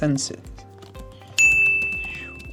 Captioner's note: ding